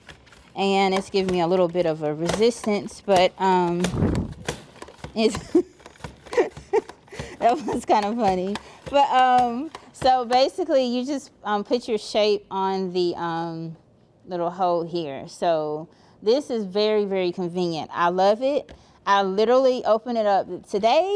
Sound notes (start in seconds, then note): 3.1 appliance thumping; 4.8 laughing